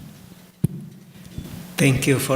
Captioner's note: taps microphone